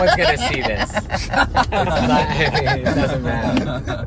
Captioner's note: laughing